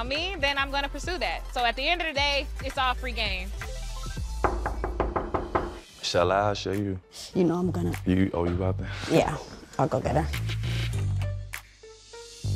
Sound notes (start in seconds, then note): 4.4 knocking at door